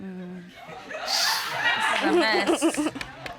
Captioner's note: chuckling